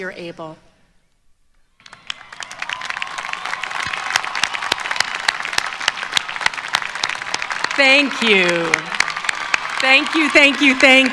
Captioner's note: applause